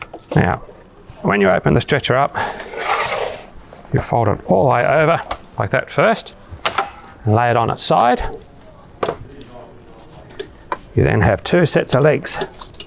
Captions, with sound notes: Now, when you open the stretcher up, (stretcher dragging) you fold it all the way over, like that, first and lay it on its side. You then have two sets of legs.